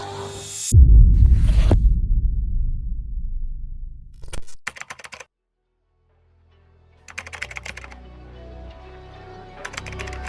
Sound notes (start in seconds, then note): 4.2 typewriter clicking; 7.5 upbeat music